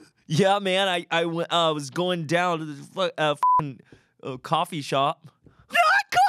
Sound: beep

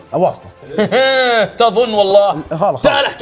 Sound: laughs arrogantly

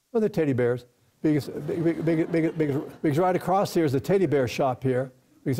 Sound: audience laughs

